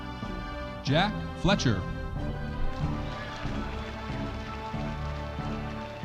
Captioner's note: audience applauding